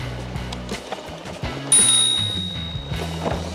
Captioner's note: bike bell dings